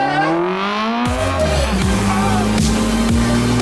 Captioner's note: engine revving